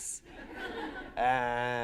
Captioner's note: laughter